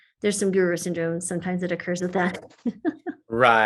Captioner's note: laughs